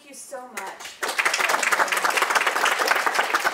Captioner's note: applause